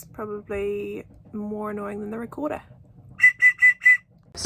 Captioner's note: blows whistle annoyingly